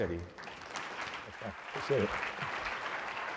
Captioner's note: applause